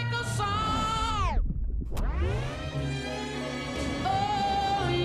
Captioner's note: record scratch